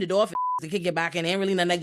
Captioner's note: beep